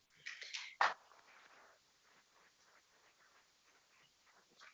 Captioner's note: people clapping